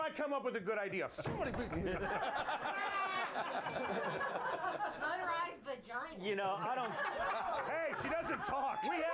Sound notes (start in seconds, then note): 1.6 laughter; 3.6 bell rings; 6.5 laughter